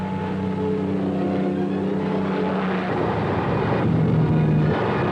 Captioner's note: airplane engines roaring